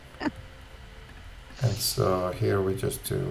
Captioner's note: laughs